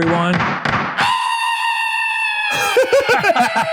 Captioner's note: high-pitched screaming; both laughing